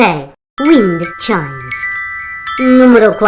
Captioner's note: chimes